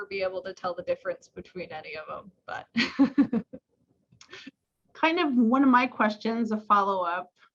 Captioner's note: laughs